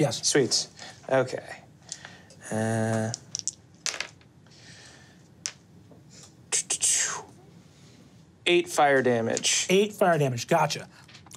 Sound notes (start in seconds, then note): 3.8 dice tapping table